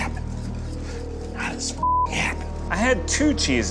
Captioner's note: beep